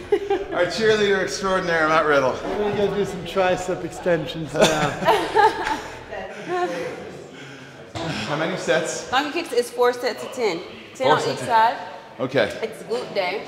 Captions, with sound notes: >> Our chairleader extraordinary at that level. >> Let me get this in tries stroke extensions. >> [LAUGH] >> How many sets? >> It's four sets of ten. >> Okay.